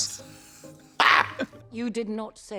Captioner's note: blonde Women cluck